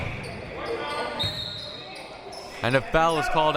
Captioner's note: whistle